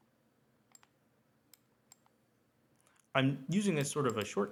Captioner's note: mouse clicks